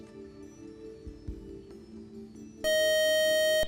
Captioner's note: beep